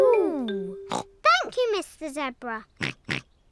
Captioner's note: snorts